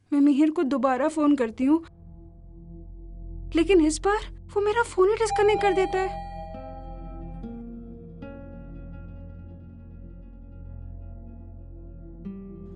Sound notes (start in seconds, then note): 5.3 elevator Bell